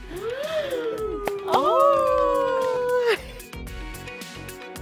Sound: designers wooing; light music

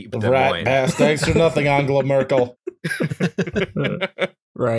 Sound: laughter

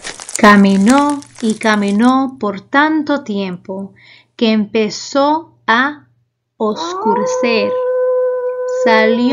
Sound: lobo aúlla

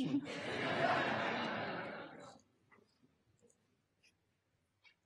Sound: audience laughter

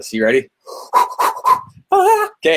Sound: rapid breathing

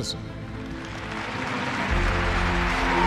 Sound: applause

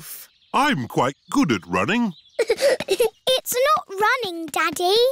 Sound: giggling

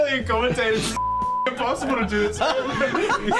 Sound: beep

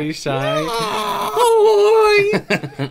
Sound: horrific Screams

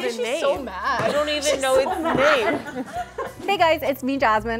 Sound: laughs

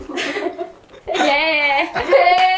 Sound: hehe

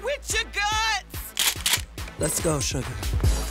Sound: gun clicks

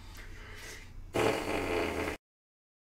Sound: loud fart noise

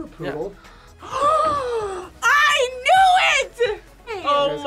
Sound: gasps

